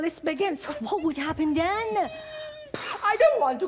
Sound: Sharik softly whimpering

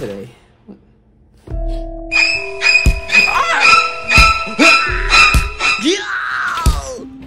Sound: screams; sounds

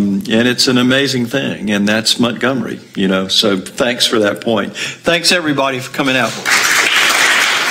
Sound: applause -END

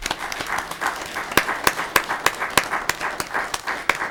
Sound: audience applauding

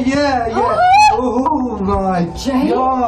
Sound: squeals

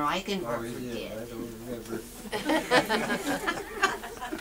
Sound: audience laughs

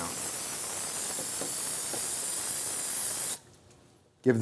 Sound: spray sound

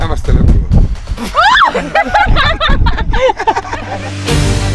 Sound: laughing; battle music

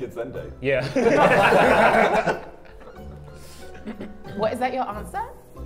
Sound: Sidemen laugh

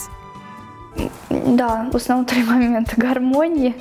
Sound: non-english speech

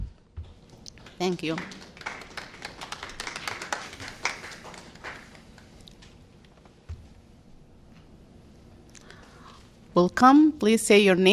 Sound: applause

